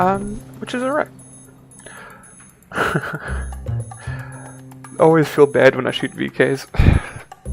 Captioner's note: snickers